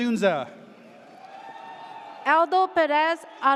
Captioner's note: audience cheers